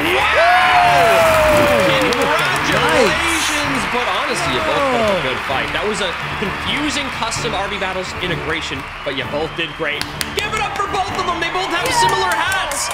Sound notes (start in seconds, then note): 0.1 audience applauds; 0.1 group cheers; 9.6 applauds